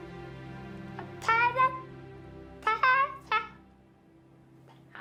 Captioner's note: babbling